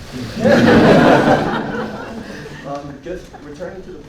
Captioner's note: laughing